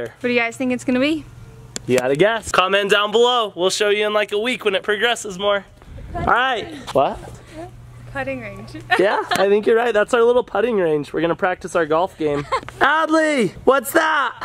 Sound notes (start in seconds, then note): 8.8 laughs